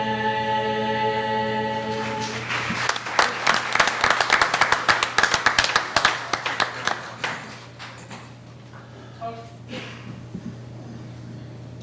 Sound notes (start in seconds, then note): 2.0 applauding